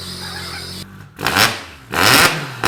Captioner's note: car Starts